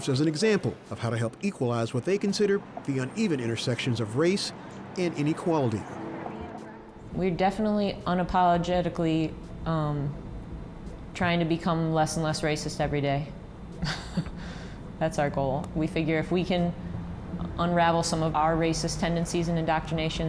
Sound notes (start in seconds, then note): 13.8 laughs